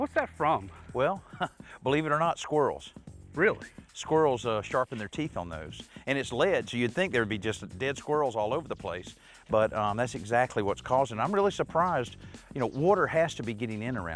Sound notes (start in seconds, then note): 1.0 chuckles